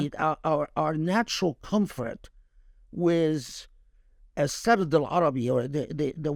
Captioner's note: speaking Arabic